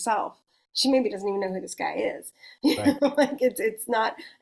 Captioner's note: chuckles